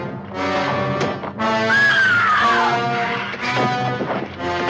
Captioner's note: suspenseful music; screams loudly